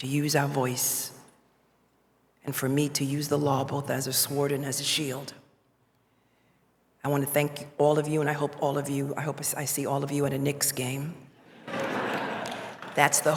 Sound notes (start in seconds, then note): 9.3 laughter